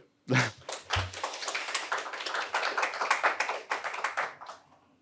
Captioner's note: audience applauding